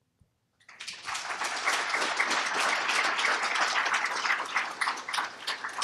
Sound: applause

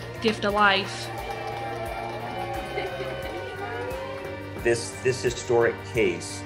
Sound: applause

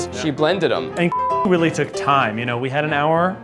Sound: beep

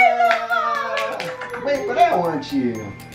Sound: clapping

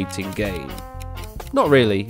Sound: ticking

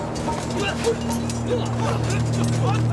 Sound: people fighting

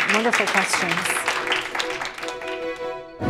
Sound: applause

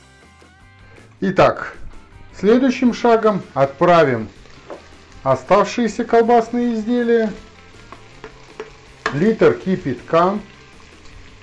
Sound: boiling water

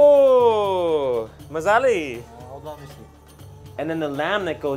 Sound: in foreign language

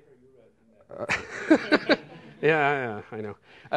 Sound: laughter

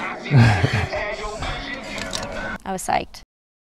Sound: man chuckling

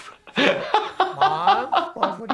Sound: laughing

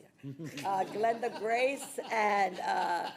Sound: everyone laughing

